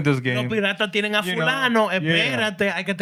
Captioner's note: speaking Spanish